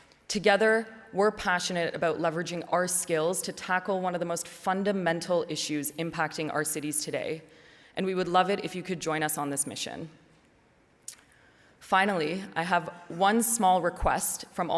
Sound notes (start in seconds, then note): none